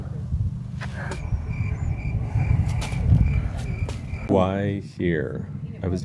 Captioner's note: crickets